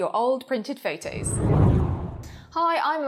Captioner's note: air whooshes